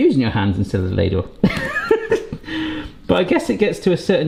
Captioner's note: laughs